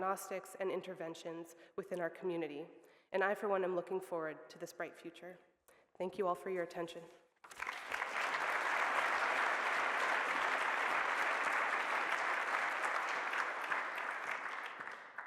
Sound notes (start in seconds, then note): 7.4 applause